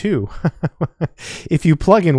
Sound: chuckles

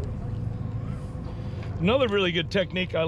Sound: boat engine idling

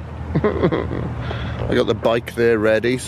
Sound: feigned crying

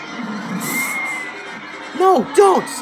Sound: Sylveon screaming

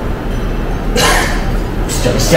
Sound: laughs

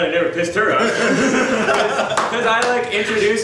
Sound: audience laughs

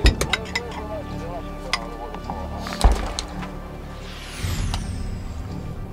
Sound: radio exchange

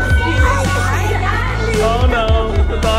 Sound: chuckles

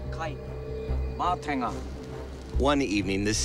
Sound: speaking Maori

